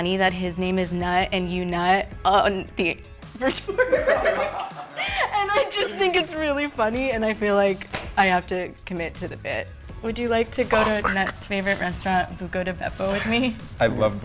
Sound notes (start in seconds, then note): 3.4 group laughing